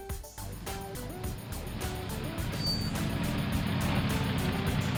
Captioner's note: car engine rumbling